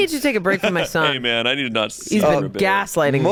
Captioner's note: group chattering